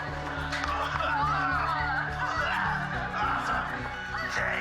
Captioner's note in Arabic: طقطقة; سعال